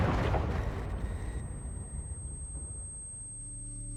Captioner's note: high-pitched ringing